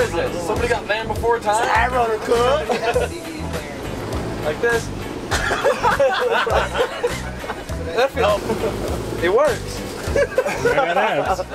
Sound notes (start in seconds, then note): 5.2 laughing